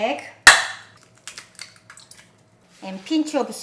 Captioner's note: egg cracking